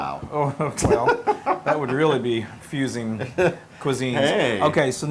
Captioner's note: laugh